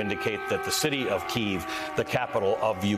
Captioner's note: sirens